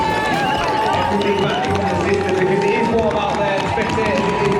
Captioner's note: crowd cheering